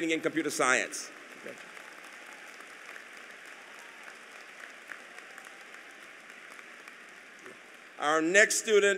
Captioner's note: applause